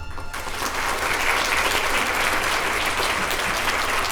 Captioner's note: audience applauding